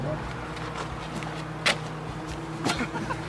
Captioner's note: feet thumping; laughing